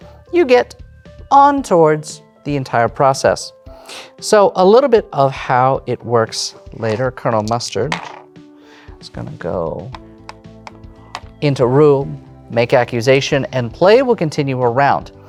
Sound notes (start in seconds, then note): 7.8 dice rattle; 10.6 game piece tapping